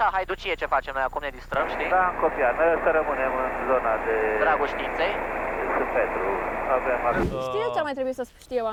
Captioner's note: radio chatter